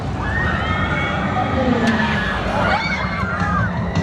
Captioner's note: screams